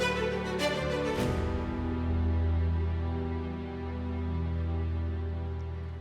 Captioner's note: echoes